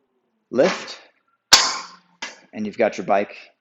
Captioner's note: rack snaps